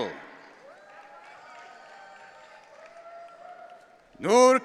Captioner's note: audience cheering